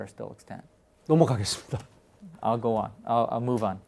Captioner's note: speaking in Korean